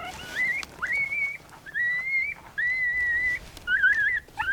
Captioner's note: animal call